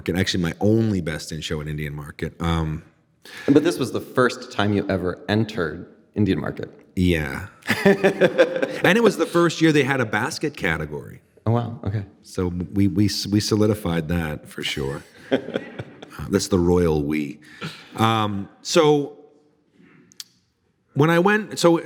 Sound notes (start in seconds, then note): 7.6 laughing; 14.8 audience laughing